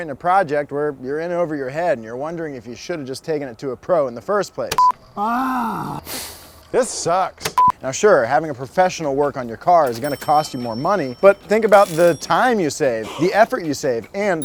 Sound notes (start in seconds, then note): 4.8 beep; 6.0 exhales sharply; 7.6 beep